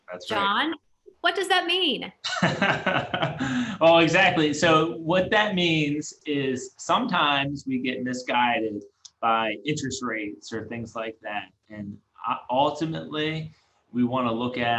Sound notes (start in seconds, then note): 2.2 laughs